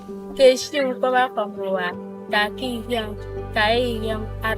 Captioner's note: non-english speech